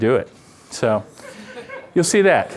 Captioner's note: laughter